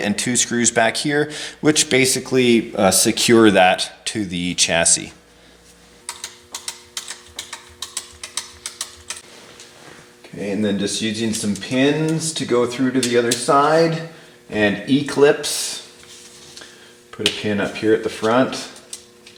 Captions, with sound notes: and two screws back here which basically secure that to the chassis. (wrench clicking) Then just using some pins to go through to the other side and e-clips. Put a pin up here at the front.